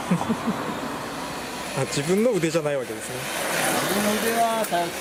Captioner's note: laughs